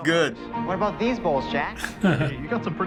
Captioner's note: chuckles